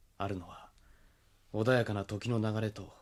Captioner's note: none